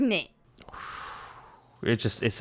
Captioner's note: exhales